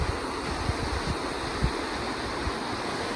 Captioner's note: sound of waterfall